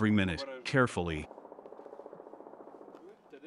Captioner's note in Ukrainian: автоматна черга на фоні